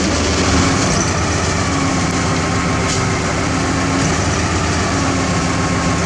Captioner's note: truck Engine